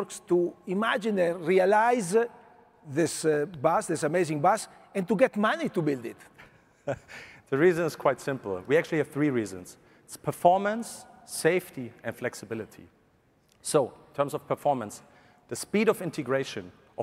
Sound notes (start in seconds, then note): 6.7 laughs